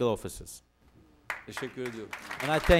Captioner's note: non-english speech